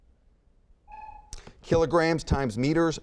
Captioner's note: buzzer beeping